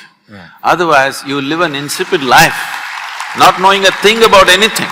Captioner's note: applause